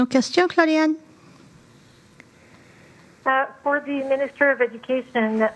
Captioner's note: speaking French